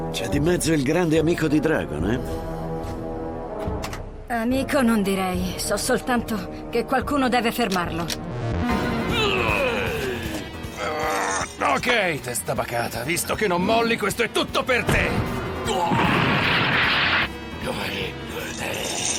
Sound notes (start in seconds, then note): 8.7 barbaric snarling; 8.7 dramatic music; 15.7 barbaric snarling